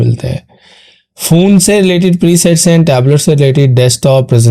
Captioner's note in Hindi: नाक से की जाने वाली आवाज़